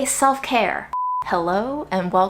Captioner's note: beeps